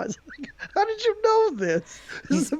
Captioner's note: laughs